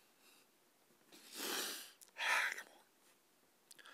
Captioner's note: soft sniffles